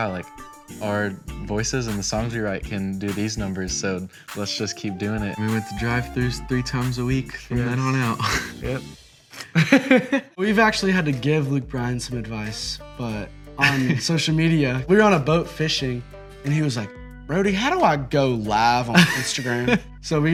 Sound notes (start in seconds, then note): 9.3 laughing